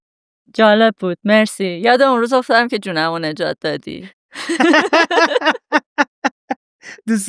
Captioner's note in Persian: خنده